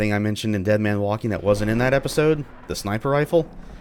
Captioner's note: thunder